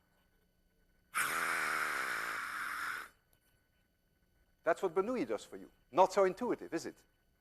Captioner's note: inhales deeply, blowing hard